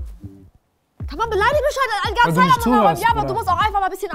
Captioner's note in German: Aufgebrachtes Murmeln